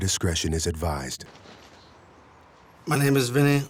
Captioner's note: birds chirping